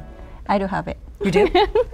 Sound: laughs

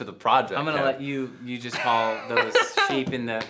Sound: Frankie laughing

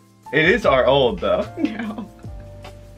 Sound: laughs

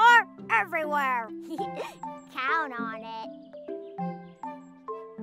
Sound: giggles; bright music

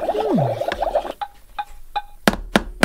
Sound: tap, Tap, Tap

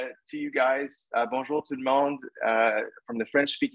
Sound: speaking French

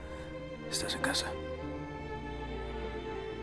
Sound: Spanish

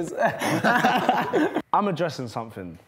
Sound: laughing

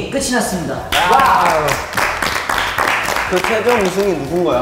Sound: clap clap clap

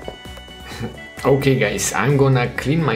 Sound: chuckles

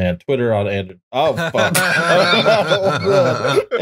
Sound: laughter

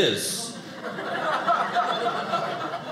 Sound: audience laughing

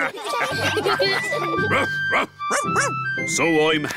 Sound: all laughing; captain and danny dog bark

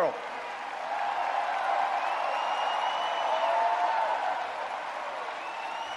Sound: audience cheers and applauds

